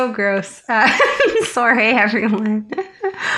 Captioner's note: laughter